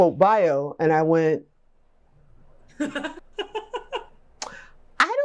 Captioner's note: laughs